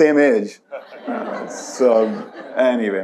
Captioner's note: audience laughs